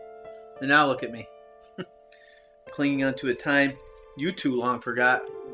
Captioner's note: chuckles